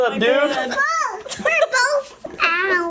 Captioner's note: baby babbling